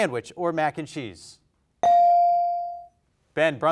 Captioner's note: bell rings